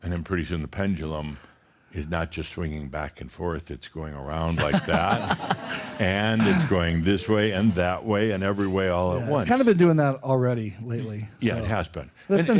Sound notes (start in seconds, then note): 4.5 laughter